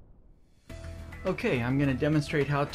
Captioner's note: voiceover